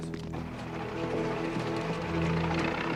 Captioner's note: boat engine revs